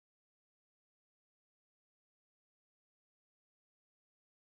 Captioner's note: none